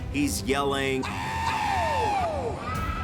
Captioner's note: Sting screams